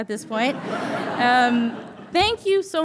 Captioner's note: audience chuckling